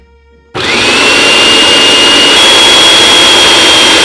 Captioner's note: food processor running